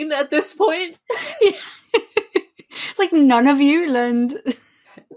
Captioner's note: laughing